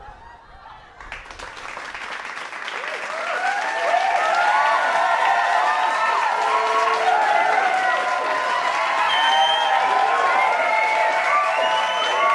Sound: cheering and clapping

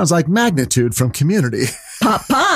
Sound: laughing

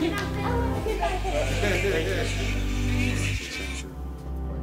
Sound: laughter

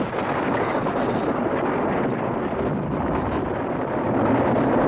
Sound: volcano erupting

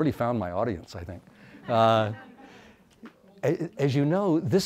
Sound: audience laughs

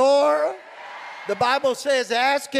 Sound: crowd

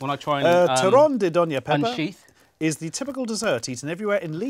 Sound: speaking foreign language

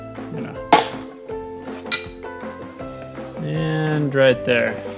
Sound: light hammer

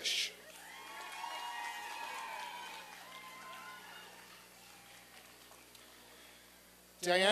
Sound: applause and cheering

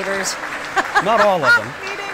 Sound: laughing

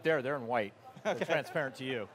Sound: laughing

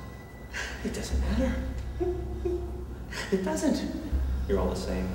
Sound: laughs

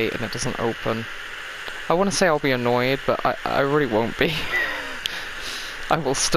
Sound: laughs

